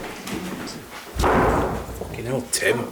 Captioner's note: lets door bang